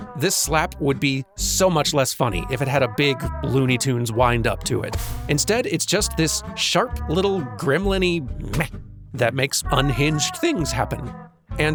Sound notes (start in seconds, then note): 4.9 smack